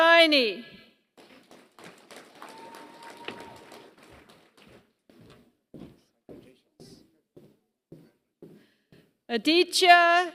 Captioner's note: applause